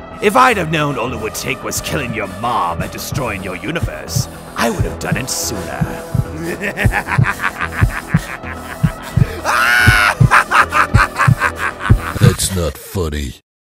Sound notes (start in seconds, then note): 6.3 evil Laughter; 10.2 maniacal Laughter